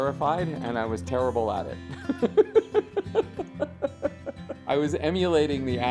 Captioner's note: laughs